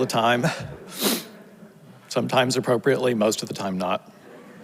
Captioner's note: chuckles; sniffles; audience laughs